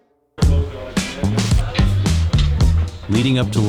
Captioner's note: groovy music; students conversing